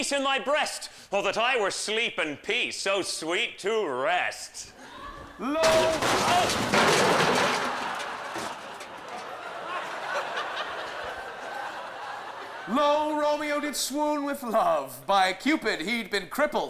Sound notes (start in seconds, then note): 5.4 crash; 7.5 laughter